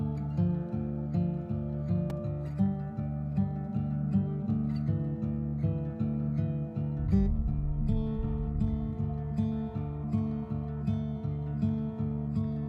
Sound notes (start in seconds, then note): 6.9 comet explodes